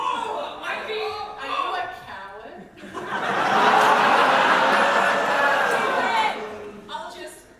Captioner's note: audience laughter